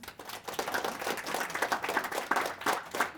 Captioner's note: applause